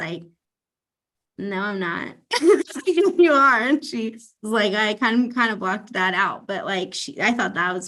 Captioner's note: laughs